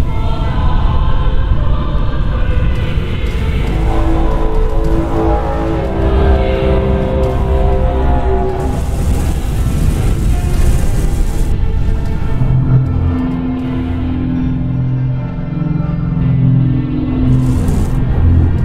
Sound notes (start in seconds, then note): 4.0 tripod horn